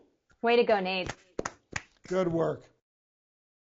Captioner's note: both clapping